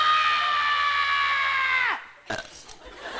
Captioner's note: burps